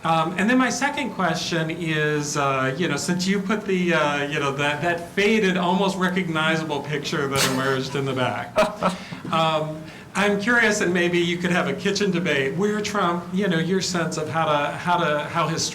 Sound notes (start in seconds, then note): 8.5 laugh